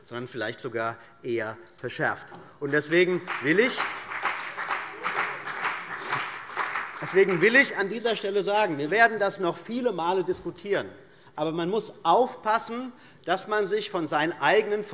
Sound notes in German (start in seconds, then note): 2.6 Beifall BÜNDNIS 90/DIE GRÜNEN und vereinzelt CDU